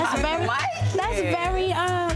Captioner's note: overlapping chattering